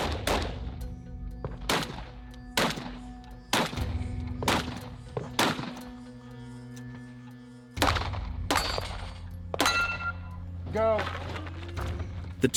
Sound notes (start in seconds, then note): 0.0 gun firing; 7.7 gun firing